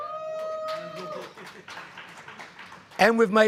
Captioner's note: cheering